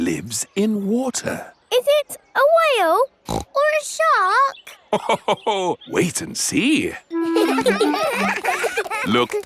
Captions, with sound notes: It lives in water. Is it a whale? (SNORTS) Or a shark? (LAUGHS) Wait and see! (CHILDREN LAUGHING)